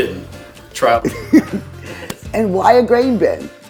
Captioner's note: chuckles